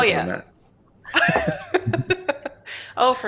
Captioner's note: laughter